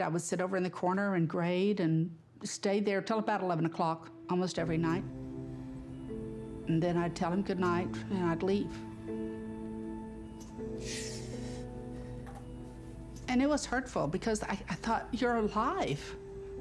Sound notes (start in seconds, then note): 10.8 deep crying breaths